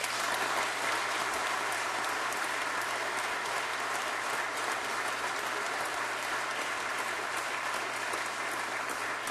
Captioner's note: applause